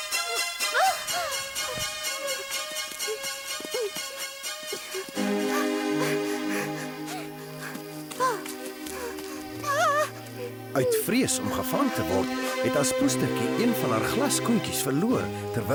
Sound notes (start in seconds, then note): 7.1 gasps